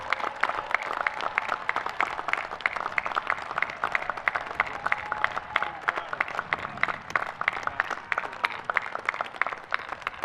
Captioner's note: applause